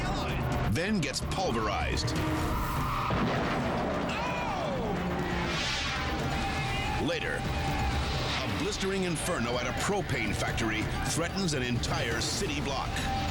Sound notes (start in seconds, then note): 2.2 car colliding